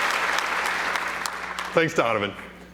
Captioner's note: applause